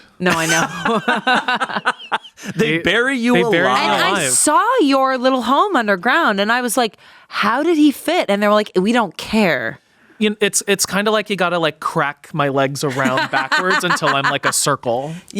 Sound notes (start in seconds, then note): 0.3 everyone laughs